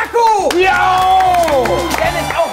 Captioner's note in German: Jubel